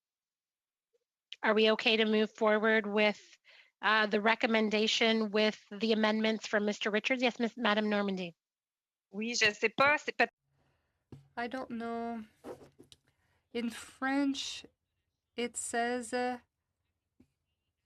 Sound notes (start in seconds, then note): 14.2 speaking FRENCH